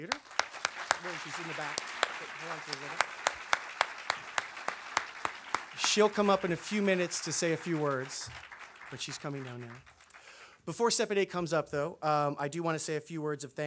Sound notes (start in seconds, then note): 0.2 audience applause